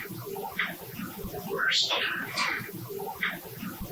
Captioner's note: eerie voice